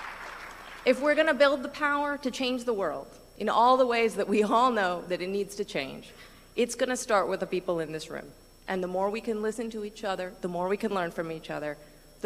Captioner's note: applause